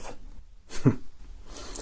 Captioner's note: chuckle